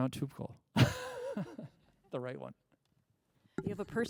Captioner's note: laughs